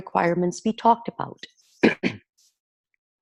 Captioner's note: clearing throat